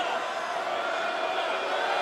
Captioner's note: crowd chatter